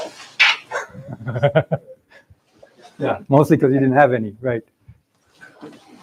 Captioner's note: laughs